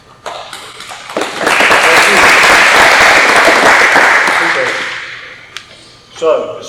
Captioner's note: applause